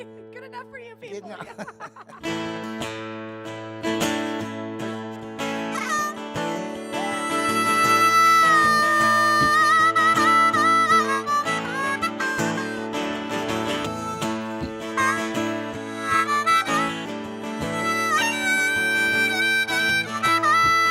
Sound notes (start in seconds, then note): 1.1 laughing; 1.1 laughs; 6.1 gentle guitar music; 6.1 gentle harmonica music